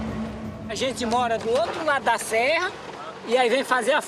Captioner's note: Portuguese spoken audio